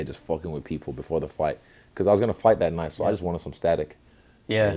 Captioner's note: none